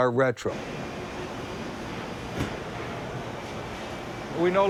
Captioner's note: factory ambience